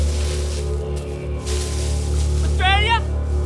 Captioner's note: leaves rustling